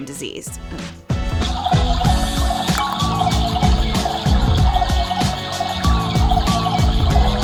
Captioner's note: upbeat music; washing machine toy bubbling